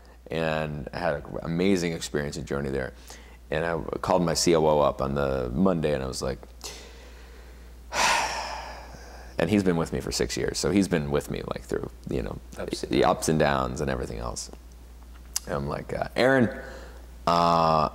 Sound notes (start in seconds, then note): 7.9 sighs